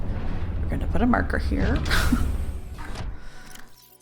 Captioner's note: laughs